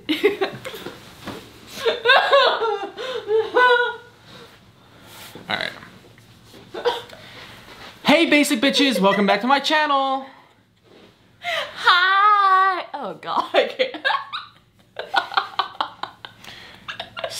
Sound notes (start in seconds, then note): 0.1 chuckles; 1.6 fake crying; 16.8 laughs